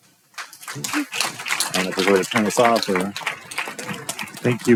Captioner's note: clapping